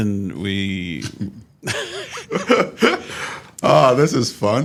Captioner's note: laughs